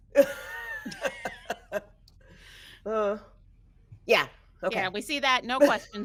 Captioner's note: person chuckling; person laughing